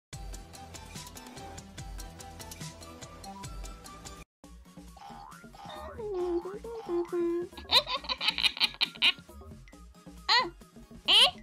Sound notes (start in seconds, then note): 0.5 intro music playing; 4.4 humming; 7.4 giggles